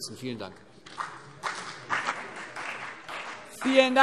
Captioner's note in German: Beifall CDU und BÜNDNIS 90/DIE GRÜNEN